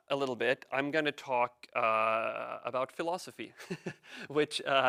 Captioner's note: chuckles